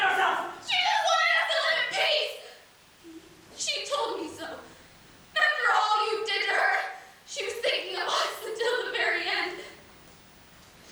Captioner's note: crying